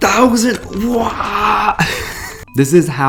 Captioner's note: laughs